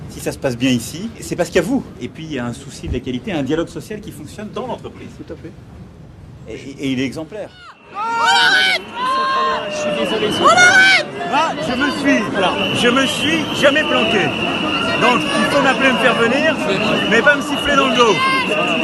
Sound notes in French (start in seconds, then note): 9.7 cris de manifestants